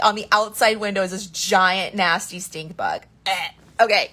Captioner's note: gags